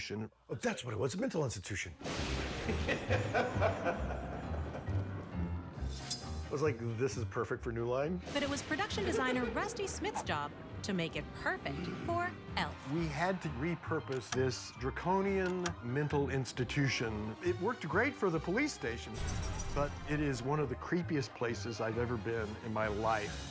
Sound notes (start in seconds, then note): 2.1 thunder crashing; 2.6 evil laughter